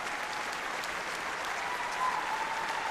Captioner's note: applause